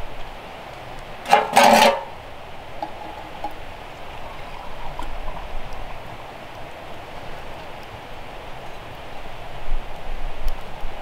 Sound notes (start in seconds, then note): 1.2 metal pans clanging